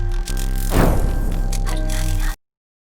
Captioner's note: puff